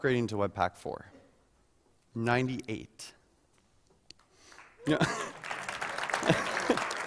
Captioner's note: applause